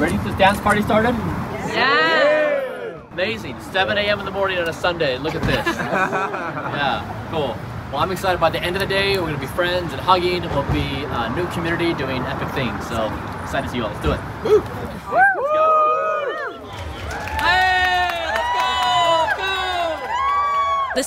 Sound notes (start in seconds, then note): 1.2 crowd; 14.6 crowd; 14.8 crowd cheering